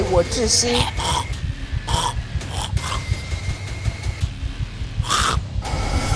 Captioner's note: Mandarin language; Zheng choking and gasps for breath